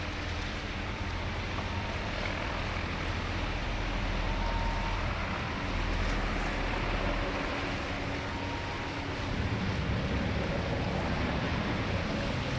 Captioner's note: water rushing